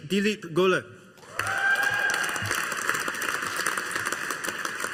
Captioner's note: audience applauding